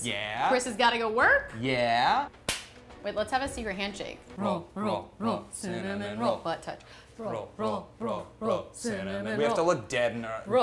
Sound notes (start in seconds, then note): 2.4 hands slapping